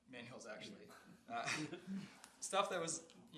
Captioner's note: laughing